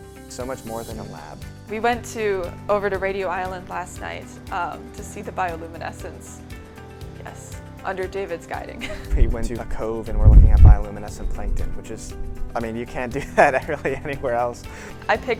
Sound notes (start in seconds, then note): 8.8 laughs